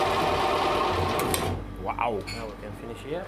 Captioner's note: whirring stops